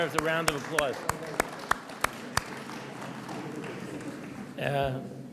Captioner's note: audience applauds